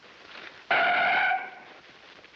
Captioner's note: screeching